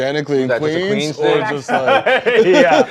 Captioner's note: laughter